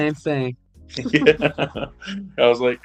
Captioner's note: laughter